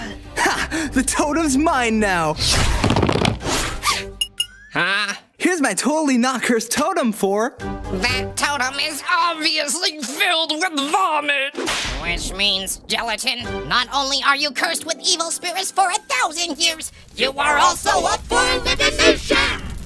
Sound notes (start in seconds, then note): 2.4 Quick tapping sound as Gelatin sprints down the stairs; 3.4 tapping sound